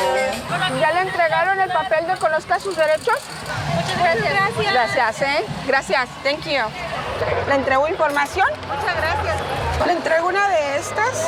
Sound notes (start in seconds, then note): 3.7 vendor speaking in Spanish; 4.6 speaking in Spanish; 7.3 speaking in Spanish